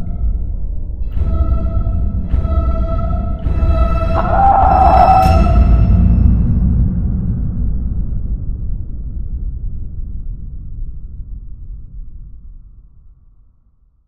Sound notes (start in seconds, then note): 4.1 Thomas screams in his tomb